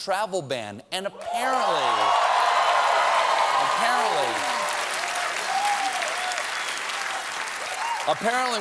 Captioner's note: cheers and applause